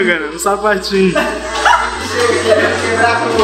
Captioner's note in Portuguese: risos